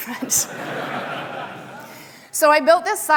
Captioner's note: audience applauding